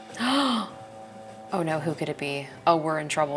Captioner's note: gasps